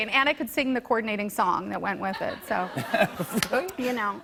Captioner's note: laughter